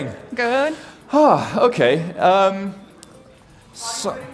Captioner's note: sighs